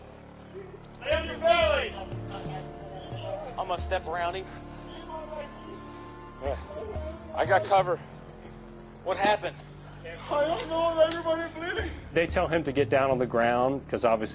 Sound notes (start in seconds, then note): 2.2 police radio chattering